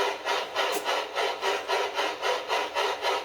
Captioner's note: chuffing sound